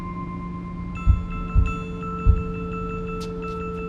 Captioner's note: thumping